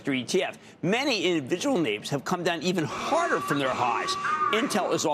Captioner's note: booing